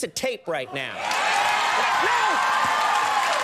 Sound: audience cheering

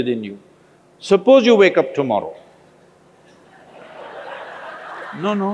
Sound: laughter

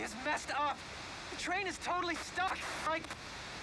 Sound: static

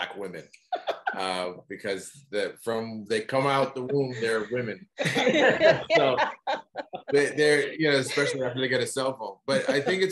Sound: laughter

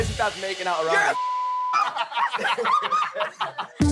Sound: laughing

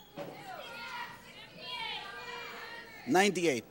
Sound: audience shouting

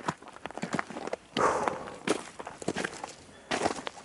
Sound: sighs

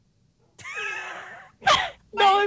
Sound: wheezes

